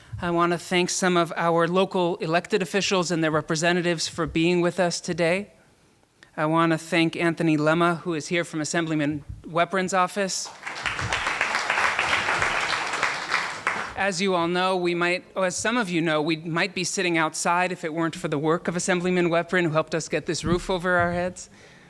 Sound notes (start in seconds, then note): 10.4 applauding